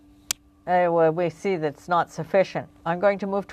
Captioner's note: speaking French